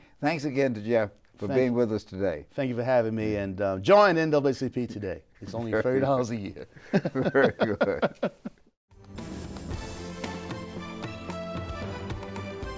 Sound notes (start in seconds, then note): 6.7 both laugh; 9.0 upbeat music